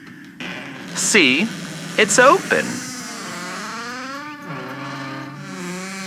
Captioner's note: Alastor opens creaky front door fx